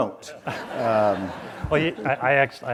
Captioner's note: audience laughs